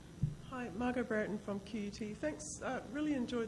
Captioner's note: voiceover